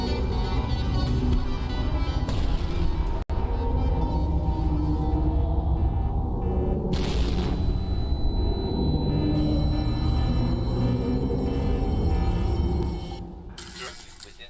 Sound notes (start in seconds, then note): 6.9 explosion; 7.6 ears ringing